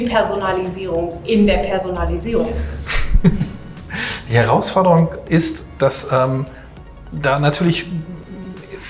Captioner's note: laughs